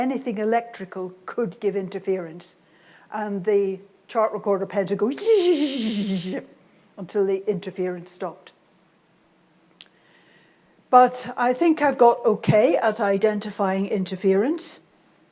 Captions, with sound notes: anything electrical could give interference, and the chart recorder pen would go (imitates pen juddering) until the interference stopped. But I think I've got okay at identifying interference,